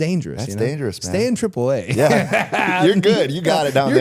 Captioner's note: laughs